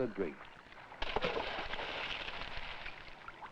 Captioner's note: splash